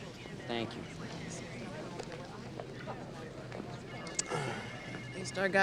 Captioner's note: group chattering